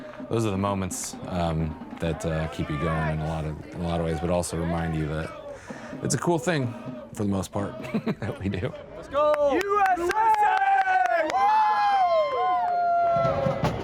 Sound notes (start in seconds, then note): 7.7 laughs; 9.2 crowd; 11.2 crowd cheers